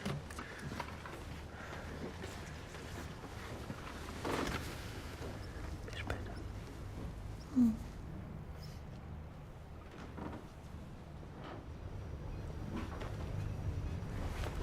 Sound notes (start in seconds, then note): 5.8 whispering